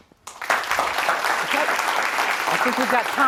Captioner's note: applauding